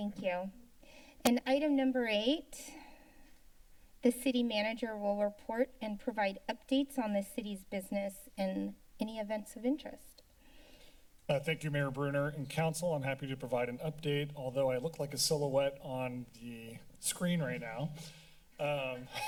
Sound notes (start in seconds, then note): 3.5 pause; 10.3 silence; 18.7 laugh